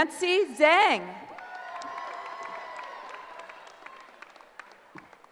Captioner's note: cheering